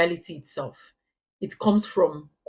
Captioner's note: paause